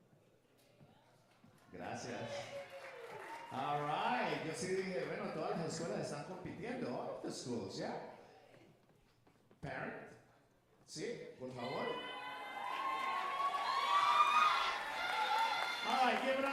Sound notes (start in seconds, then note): 4.6 speaker speaking Spanish; 10.6 speaker speaking Spanish; 13.2 audience cheering and applauding